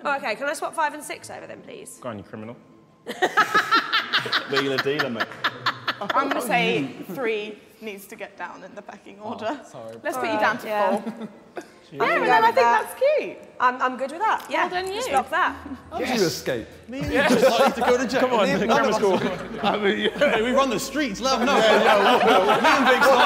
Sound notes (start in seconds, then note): 17.0 Sidemen laughing